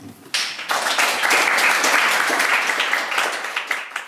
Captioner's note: clapping